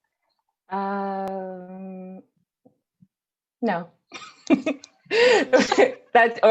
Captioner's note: laughs